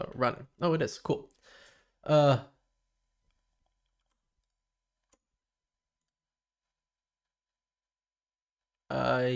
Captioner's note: silence